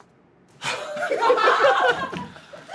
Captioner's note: laughing